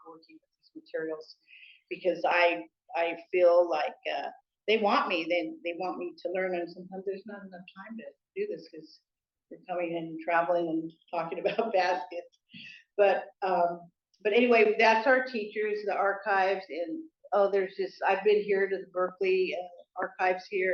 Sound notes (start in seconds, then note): none